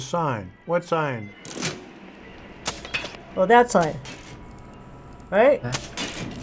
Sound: gun clicking

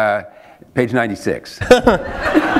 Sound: laughter

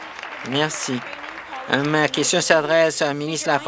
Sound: applause

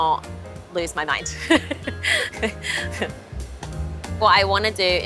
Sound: laughs

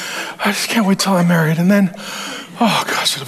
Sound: sighs

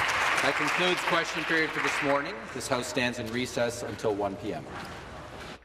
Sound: applause

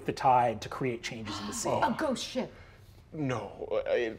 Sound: gasps

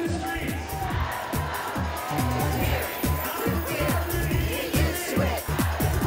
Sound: crowd Chanting

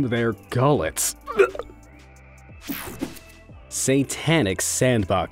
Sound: light gagging

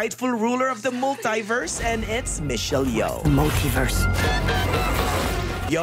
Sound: sound effects

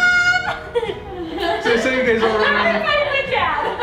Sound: laughs

